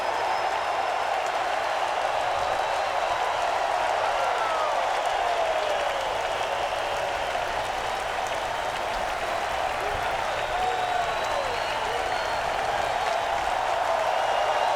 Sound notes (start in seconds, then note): 1.6 crowd cheering continues